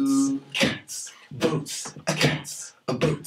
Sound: all beatboxing

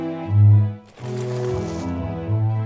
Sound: ground scrapes

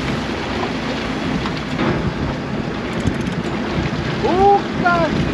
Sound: motor revving

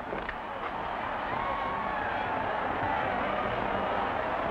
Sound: crowd roars

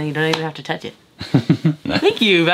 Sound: laughs

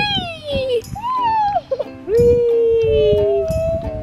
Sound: child cheering

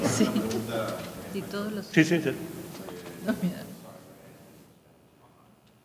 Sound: speaking in a foreign language

